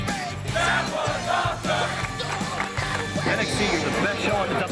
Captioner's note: fans chanting